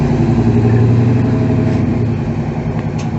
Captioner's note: louder exhaust sound